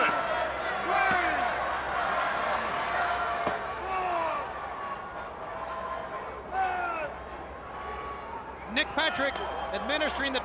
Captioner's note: crowd chatter